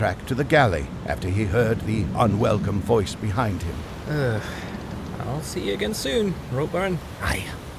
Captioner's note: sigh